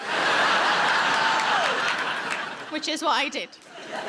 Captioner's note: audience laughs